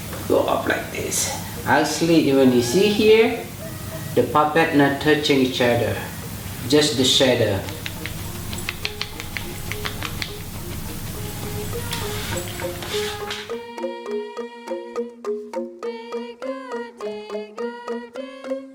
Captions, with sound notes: go off like this... Actually, what you see here, is that the puppets are not touching each other. Just the shadow. [ makes clicking sound of horse hooves ]